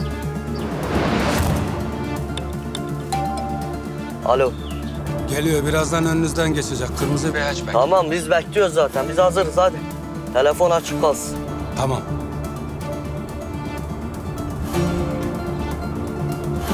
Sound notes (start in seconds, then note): 2.9 phone rings